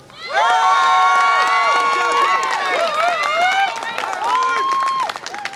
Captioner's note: audience applause and cheer